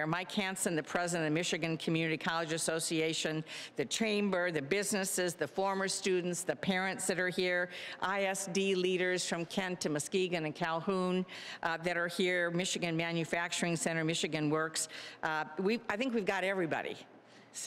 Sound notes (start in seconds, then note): none